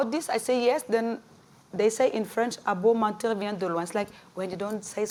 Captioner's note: french